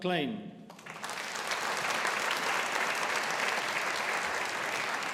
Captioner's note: audience applauding